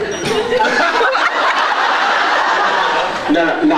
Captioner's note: laughs